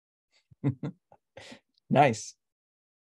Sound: chuckles

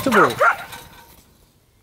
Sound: barking

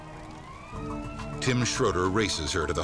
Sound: sirens blaring; dramatic music

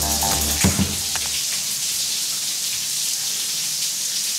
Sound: soap thumping

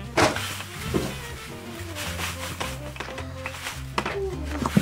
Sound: sound of sand pouring; jazzy music

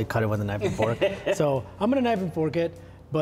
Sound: laughing

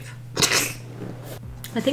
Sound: laughs

